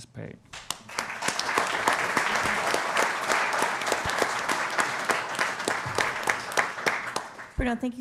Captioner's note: applause